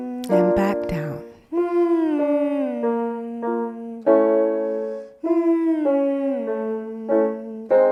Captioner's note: descending piano scales; humming continues